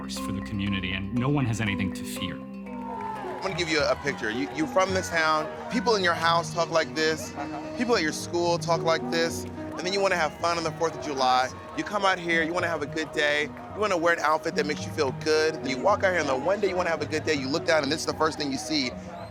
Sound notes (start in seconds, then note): 2.4 cheering